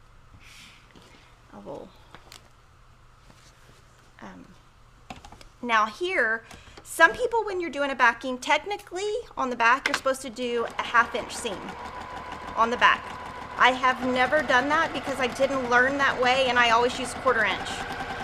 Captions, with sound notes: Now here, Some people, when you're doing a backing, technically on the back you're supposed to do a half inch seam (machine starts whirring) on the back. (sewing machine speeds up) I have never done that because I didn't learn that way and I always use a quarter inch.